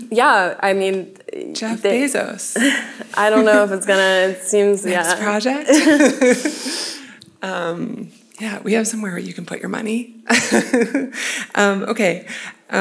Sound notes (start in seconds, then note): 5.6 laughing; 10.3 laughs